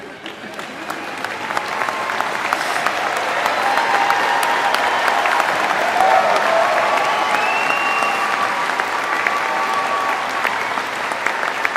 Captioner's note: applause